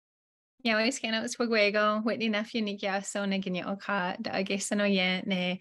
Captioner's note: speaking in Native language